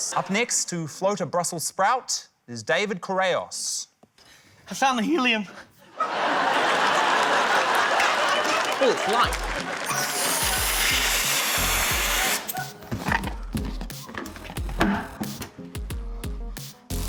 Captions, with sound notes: Up next to float a Brussels sprout is David Correos. - I found the helium. (LAUGHTER, APPLAUSE) Ooh, it's light. (HELIUM HISSES)